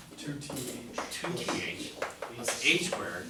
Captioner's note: voiceover